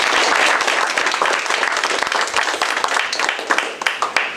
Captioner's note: applause